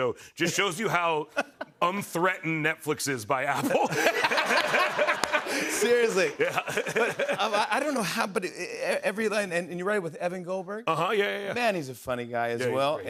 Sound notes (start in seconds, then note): 3.5 laughter